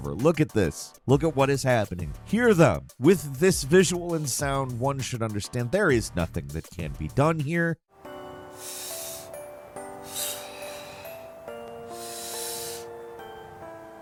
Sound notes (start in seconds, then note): 8.0 quirky music; 8.1 Tidus inhaling and exhaling